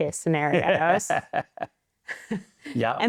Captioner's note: laughing